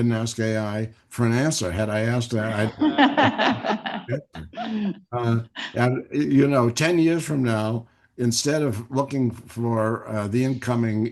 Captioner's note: laughter